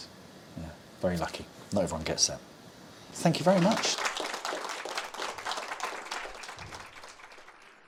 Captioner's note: applause